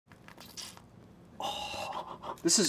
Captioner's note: uni squishing